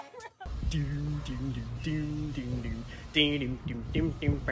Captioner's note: woman laughs; man vocalizing